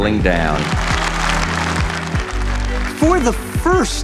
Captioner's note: applause